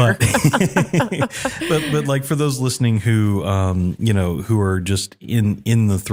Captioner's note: laugh